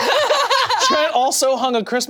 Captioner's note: people laughing